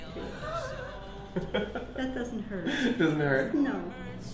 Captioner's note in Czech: smích